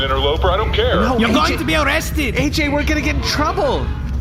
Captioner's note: yelling